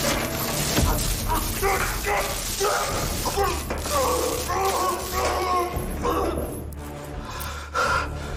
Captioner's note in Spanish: Quejidos